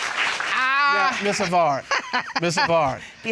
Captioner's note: laughs